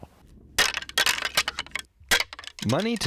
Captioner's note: antlers clanking